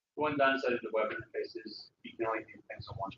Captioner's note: man talking